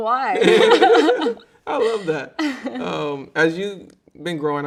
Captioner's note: both laughing